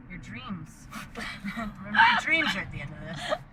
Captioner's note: laughs